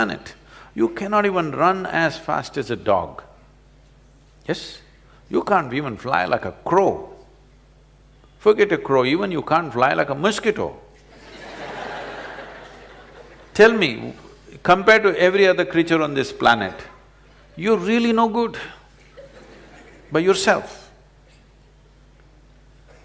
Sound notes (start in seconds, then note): 11.1 laughter; 11.1 笑聲